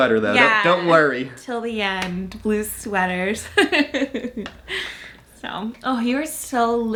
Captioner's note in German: lacht